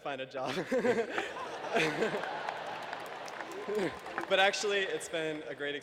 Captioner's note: laughter